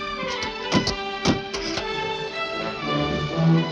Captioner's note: doors banging